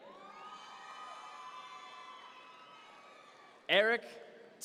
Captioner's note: audience members cheer